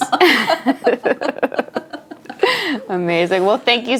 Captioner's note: laughing